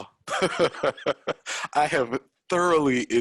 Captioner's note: chuckles